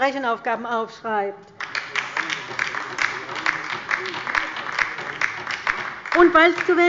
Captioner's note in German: Beifall bei der LINKEN